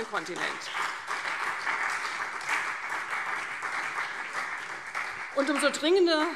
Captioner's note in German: Beifall CDU, BÜNDNIS 90/DIE GRÜNEN und SPD